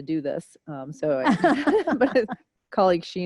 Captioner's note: laughter